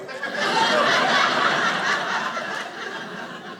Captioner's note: audience laughing